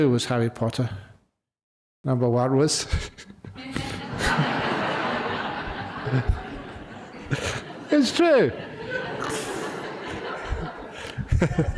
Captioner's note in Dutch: lachen